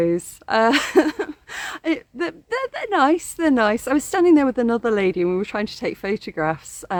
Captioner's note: laughing